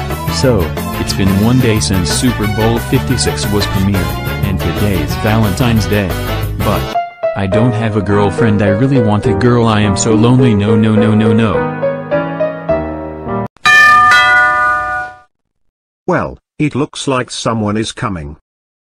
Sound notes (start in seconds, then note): 13.6 door rings